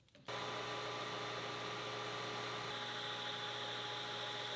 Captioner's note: lathe whirring